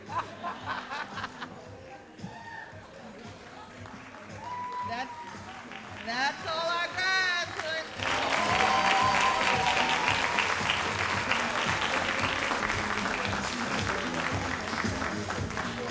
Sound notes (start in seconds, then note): 0.0 all laughing; 2.4 all applauding and cheering; 7.9 all applauding and cheering